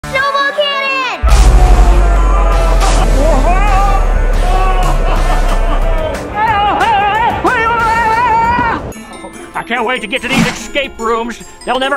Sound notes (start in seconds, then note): 3.5 Grinch yelling; 4.5 Santa laughing; 6.8 Grinch yelling